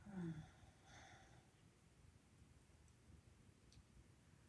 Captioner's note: softly moans